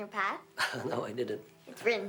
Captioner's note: chuckles